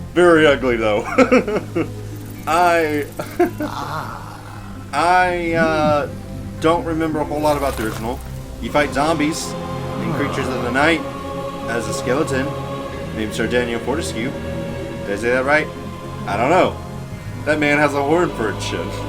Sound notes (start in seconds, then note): 0.7 laughs